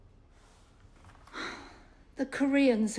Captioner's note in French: soupirs